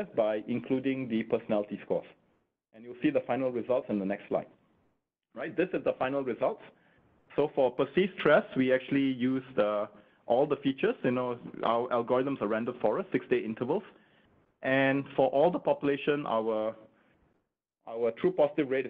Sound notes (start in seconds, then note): none